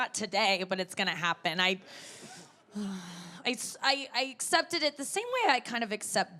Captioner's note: sighs